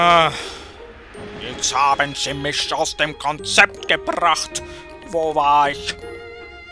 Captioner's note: sigh